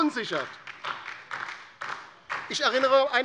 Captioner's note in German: Beifall DIE LINKE